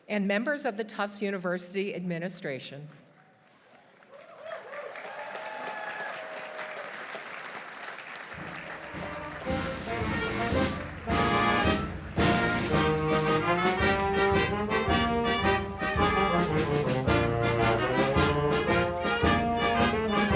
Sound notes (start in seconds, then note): 3.9 audience cheering; 4.6 audience applauding; 8.4 upbeat band music